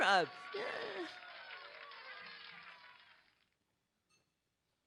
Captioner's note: applause